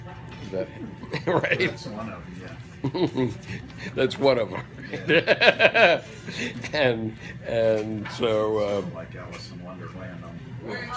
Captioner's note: laughter